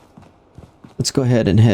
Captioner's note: footsteps